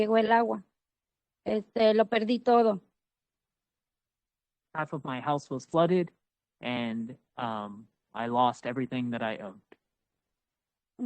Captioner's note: speaking Spanish